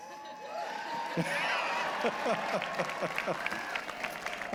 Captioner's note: cheering